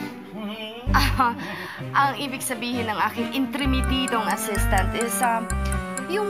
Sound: chuckles

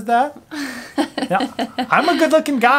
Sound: laughs

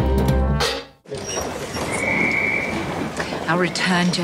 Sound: whistle blows

